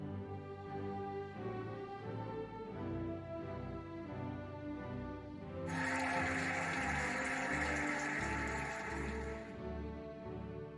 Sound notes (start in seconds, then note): 5.6 cheering and applauding